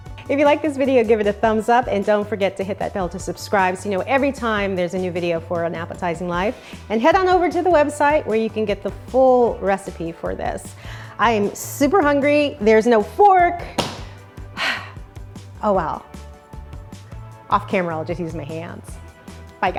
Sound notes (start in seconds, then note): 0.0 upbeat contemporary music; 13.7 sharp slap; 14.5 sighs heavily